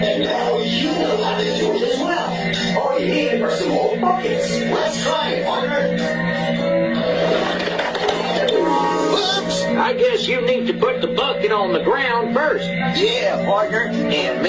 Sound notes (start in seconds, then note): 7.6 clattering